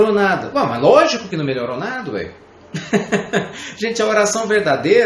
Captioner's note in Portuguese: Risos